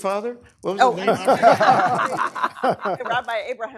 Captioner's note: laughter